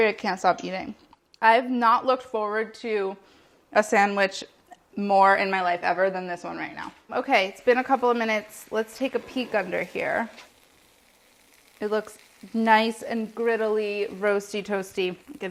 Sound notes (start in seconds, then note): 10.2 pan sizzling